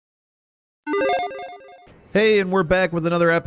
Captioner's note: electronic chiming